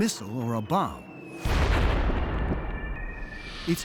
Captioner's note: explosion